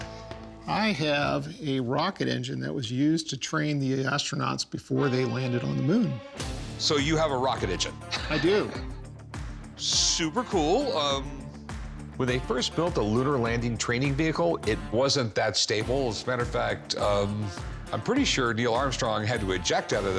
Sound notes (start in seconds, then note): 8.0 chuckles